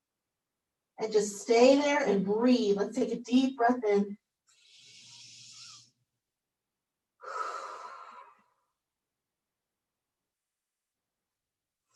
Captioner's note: breathes in and out